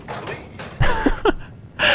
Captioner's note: laughs